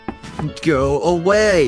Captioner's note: fourteen knocks on the door